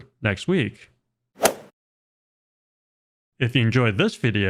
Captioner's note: golf swing sound effect